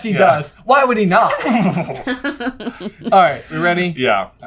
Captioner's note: swishy flappy writing imitation